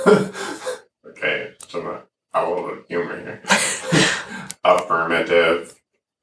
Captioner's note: laughs